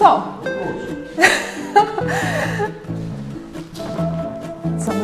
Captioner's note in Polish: śmiech